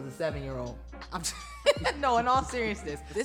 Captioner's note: laughs